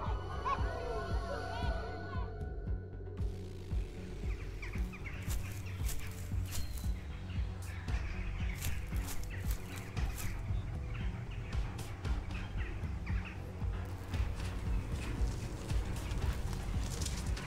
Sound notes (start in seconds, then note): 0.0 children laughing and shouting; 4.8 birds chirping; 6.2 footsteps